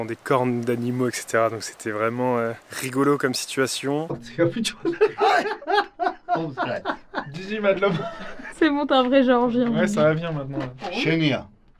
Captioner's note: laughs